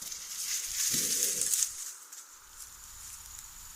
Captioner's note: skunk growls